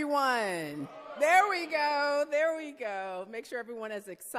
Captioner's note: crowd cheering